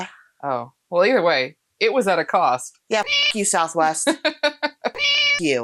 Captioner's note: meow